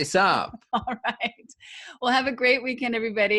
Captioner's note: laughing